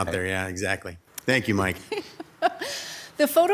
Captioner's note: laughs